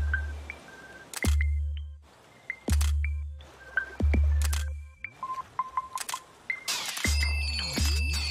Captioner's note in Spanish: Disparos cámara